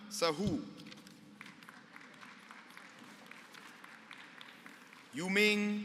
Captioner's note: applause